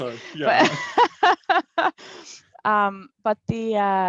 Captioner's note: laughs